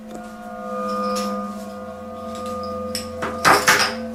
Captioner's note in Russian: колокольчик